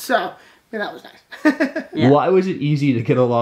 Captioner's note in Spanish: Risas